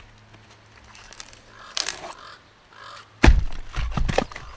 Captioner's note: crow calling out